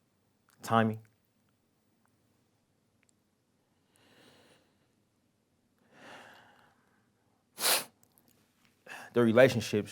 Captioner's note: pause